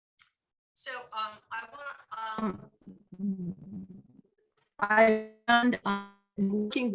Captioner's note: audio warble